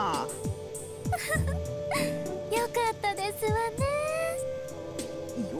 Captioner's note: giggle